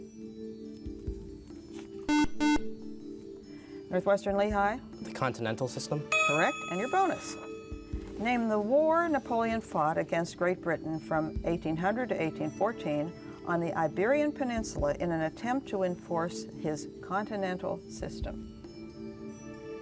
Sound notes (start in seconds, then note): 2.0 beep